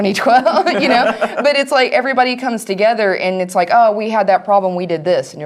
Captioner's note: laugh